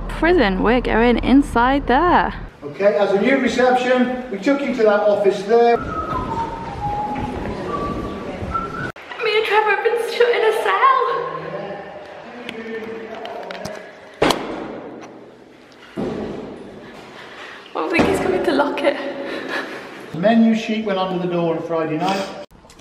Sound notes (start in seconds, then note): 5.7 whistling